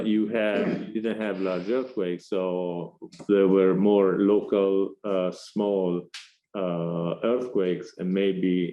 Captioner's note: audience member shuffling and clearing throat